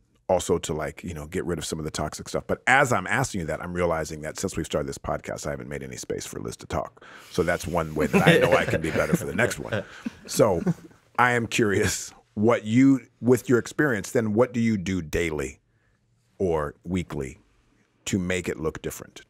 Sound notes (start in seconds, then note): 7.9 all laughs